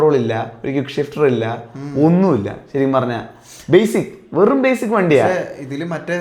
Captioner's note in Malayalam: ചീറ്റുന്നു